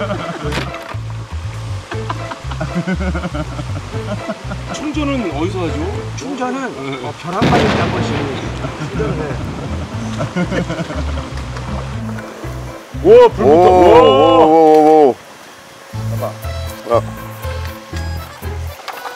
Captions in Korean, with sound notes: [폭소] 충전은 어디서 하죠? 충전은 충전은 벼락 맞을 때 한번씩 번개 한번에 완충 쌉가능 와, 불 붙었다 활활